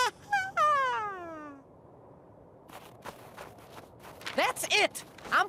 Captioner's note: squeaky, nervous laugh